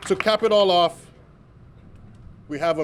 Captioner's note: applause